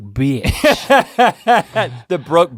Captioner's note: Rhett laughs